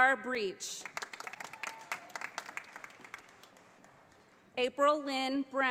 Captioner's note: audience applauding